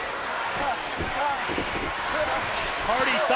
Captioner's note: crowd roars; fighters groan